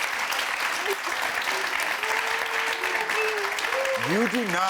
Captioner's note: sobs